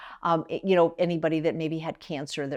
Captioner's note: none